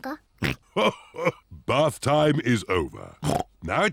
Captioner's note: laughs; snorts